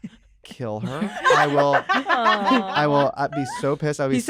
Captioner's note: laughter